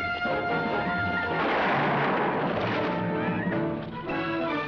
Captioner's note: gun firing